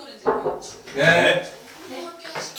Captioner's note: knock, knock